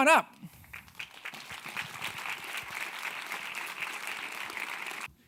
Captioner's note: audience clapping